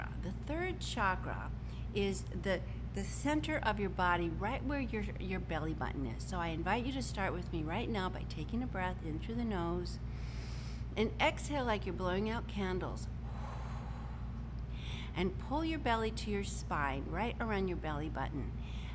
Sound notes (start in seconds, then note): 10.1 inhales deeply; 14.7 exhales sharply